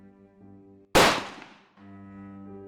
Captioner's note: bang!